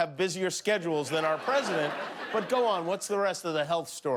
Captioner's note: laughter